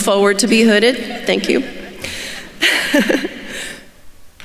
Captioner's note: laughs